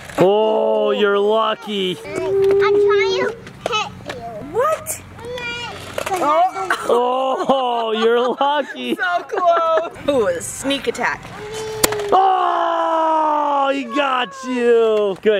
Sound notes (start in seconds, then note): 6.8 laugh; 11.3 yells